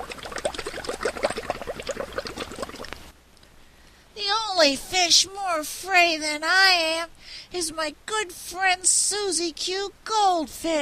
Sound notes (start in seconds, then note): 0.0 sound of bubbles in water